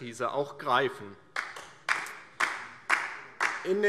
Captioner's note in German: Beifall DIE LINKE